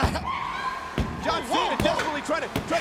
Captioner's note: fist thumping